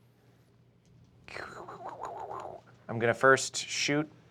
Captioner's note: burbling